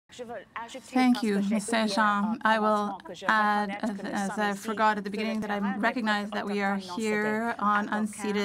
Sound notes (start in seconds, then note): 2.6 speaking French; 3.1 voice of translator